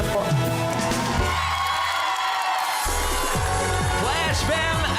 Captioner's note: audience cheering